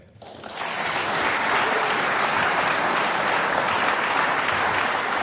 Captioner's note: audience applauding